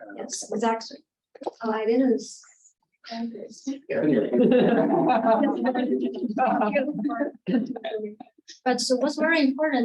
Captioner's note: audience chuckling and inaudible chatter